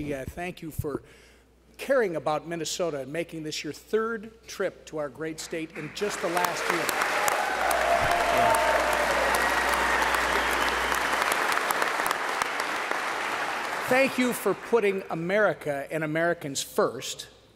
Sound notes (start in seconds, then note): 7.9 applause